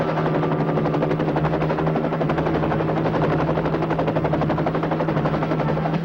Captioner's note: helicopter roaring continues